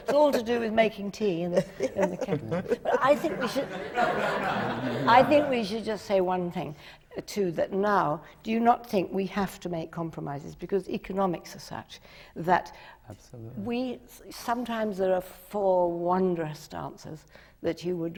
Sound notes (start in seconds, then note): 0.0 laughs; 4.5 laughter